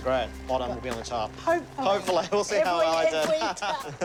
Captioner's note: laughs